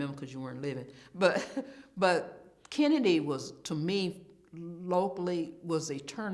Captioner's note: chuckles